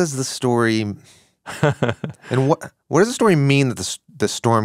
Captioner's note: laughs